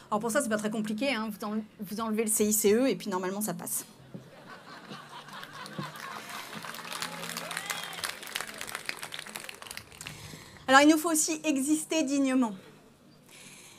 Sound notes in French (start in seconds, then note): 5.2 Applaudissements; 6.1 Rires